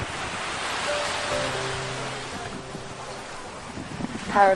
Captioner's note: waves lapping on shore